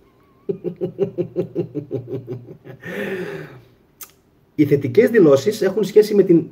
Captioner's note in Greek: γέλια